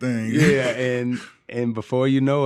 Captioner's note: laughing